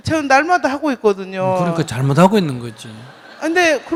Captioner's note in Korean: 청중 웃음